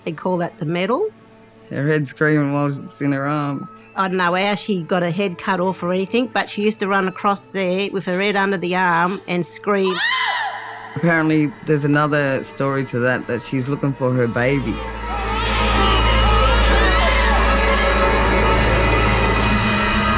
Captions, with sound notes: They called that the metal. - Her head's screaming while it's in her arm. - I don't know how she got her head cut off or anything, but she used to run across there with her head under the arm and scream. (woman screams) - Apparently there's another story to that, that she's looking for her baby. (baby crying) (eerie music)